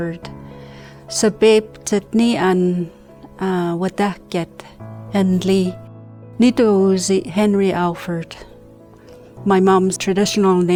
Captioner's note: speaking Witsuwit’en